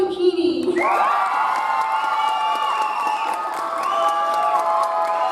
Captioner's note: audience applauds